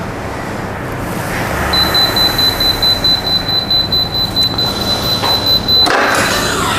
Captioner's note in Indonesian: suara beep